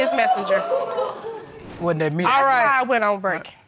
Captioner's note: audience exclaiming